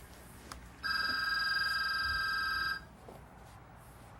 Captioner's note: phone ringing